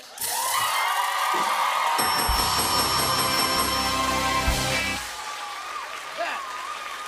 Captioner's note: cheers and applause; ding